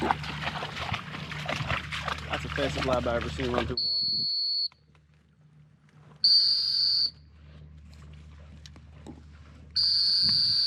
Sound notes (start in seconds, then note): 6.2 whistle blowing